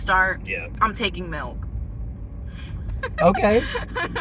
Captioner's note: laughter